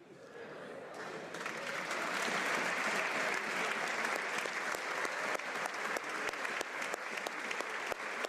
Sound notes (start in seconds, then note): 3.4 applause